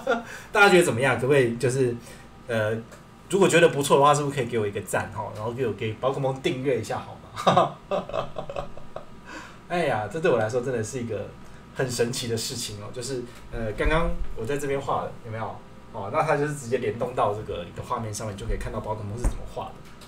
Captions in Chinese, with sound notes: 大家覺得怎麼樣可不可以？就是 如果覺得不錯的話 是不是可以給我一個贊 然後給寶可孟訂閱一下好嗎？(笑聲) 這對我來說真的是一個 很神奇的事情 就是 剛剛我在這邊畫了 有沒有 那他就是直接連動到這個你的畫面上面 就可以看到寶可孟是怎麼畫的